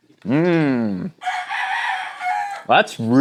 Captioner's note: rooster crows